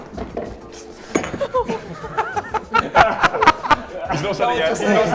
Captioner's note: laughter, in discomfort